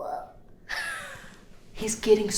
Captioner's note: Kiki chuckles